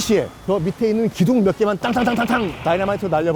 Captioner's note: bang x 5